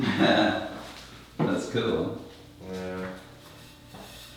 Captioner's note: chuckles